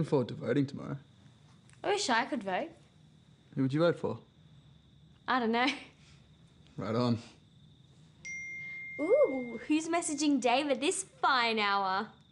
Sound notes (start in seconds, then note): 8.2 phone pings